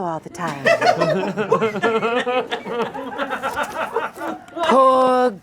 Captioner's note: audience laughing